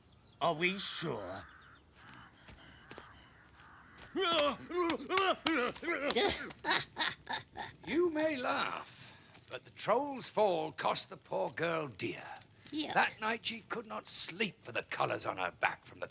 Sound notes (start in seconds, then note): 4.1 screaming; 6.7 laughing